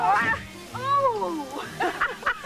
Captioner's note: groan; chuckles